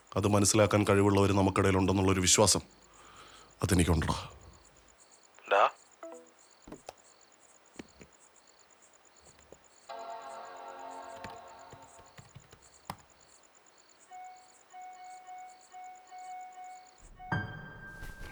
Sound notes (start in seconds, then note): 11.6 keyboard clicks; 14.4 notification sounds